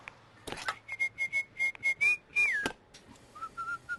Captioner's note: whistling